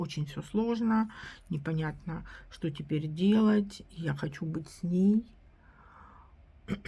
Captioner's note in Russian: откашливается